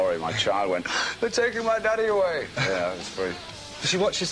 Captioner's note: draws breath; laughs